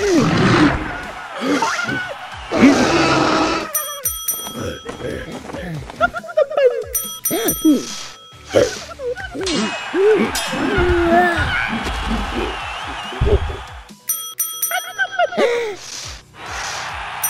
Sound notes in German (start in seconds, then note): 0.0 Gebrüll; 2.4 Gebrüll; 3.7 Glockenschlags; 6.9 Glockenschlags; 9.3 clanging; 11.5 Beifallsrufe; 14.0 Glockenschlags; 16.3 Beifallsrufe